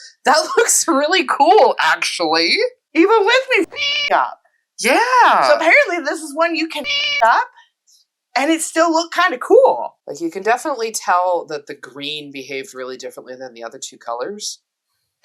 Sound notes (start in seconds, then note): 3.6 meow; 6.8 meow